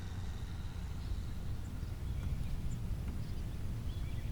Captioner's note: birds chirping